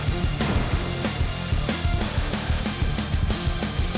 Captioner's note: whooshing